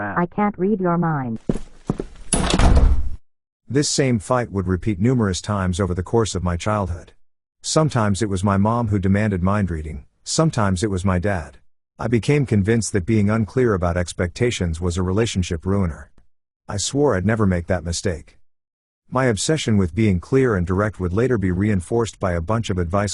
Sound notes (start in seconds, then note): 2.3 door slam; 3.7 stomping footsteps